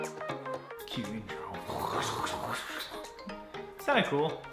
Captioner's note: upbeat music; imitates whooshing